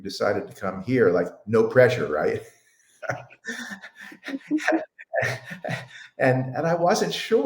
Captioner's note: laughing